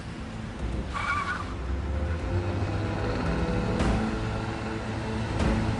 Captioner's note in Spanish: Chirrido de neumáticos